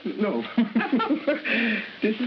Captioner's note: both laughing